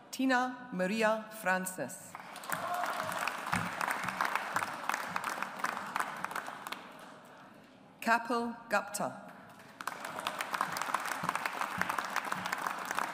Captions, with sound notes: Tina Maria Francis. (AUDIENCE APPLAUDS) Kapil Gupta. (AUDIENCE APPLAUDS)